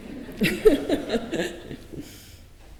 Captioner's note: laughs